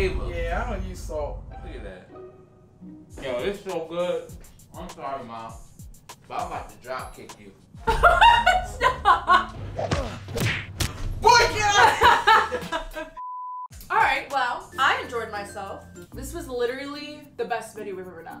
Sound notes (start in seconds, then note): 7.9 laughing; 9.7 comical punching noises